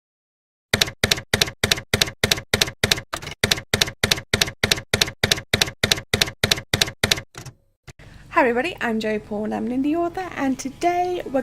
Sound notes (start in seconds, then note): 0.7 typewriter keys clacking